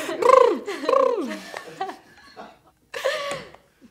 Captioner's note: laughing